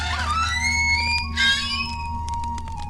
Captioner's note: gate creaking open